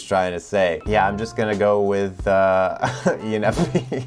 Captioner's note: chuckles